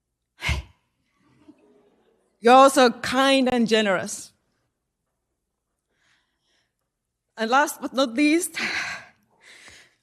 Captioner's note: sigh